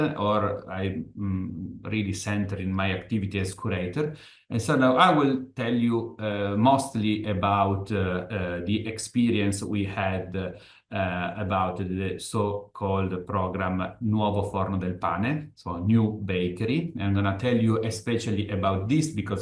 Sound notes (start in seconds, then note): 14.2 italian